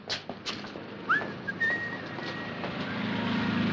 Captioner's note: whistling